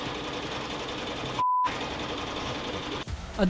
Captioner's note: beep